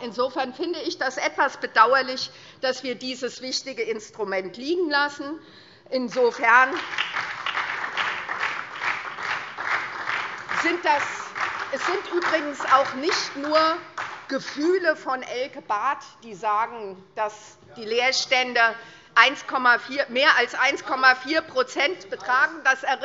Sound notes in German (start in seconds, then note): 6.2 Beifall SPD und vereinzelt DIE LINKE